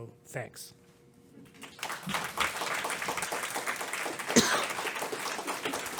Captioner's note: applause